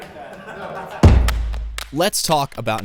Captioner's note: laugh